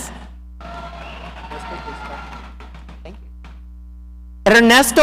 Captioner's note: audience cheering